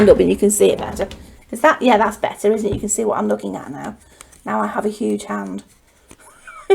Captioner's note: chuckles